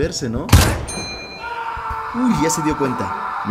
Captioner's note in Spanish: Grito de Aldeano